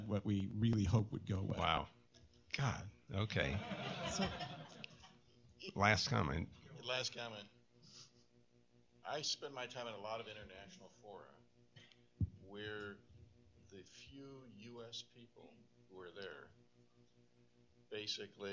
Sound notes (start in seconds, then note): 3.4 laughter